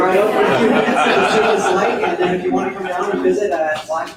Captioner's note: audience laughs